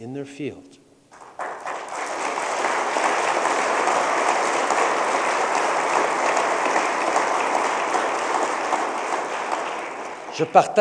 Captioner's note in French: Applaudissements